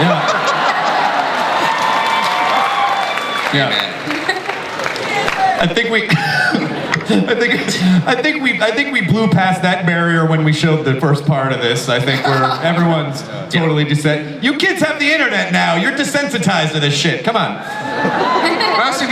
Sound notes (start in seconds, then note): 0.0 audience laughs; 5.9 laughing